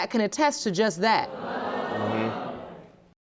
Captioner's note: audience gasping